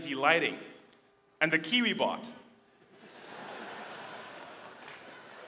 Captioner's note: audience laughing